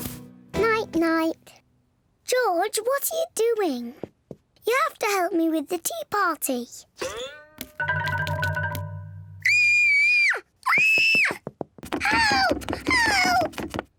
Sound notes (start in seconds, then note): 9.2 squeals